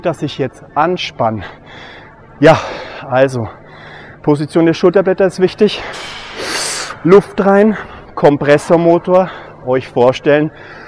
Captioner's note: inhaling